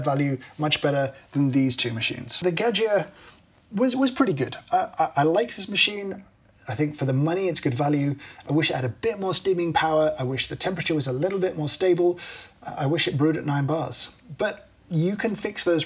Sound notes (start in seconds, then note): none